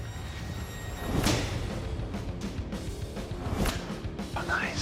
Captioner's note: thudding